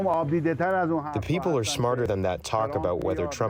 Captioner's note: through translator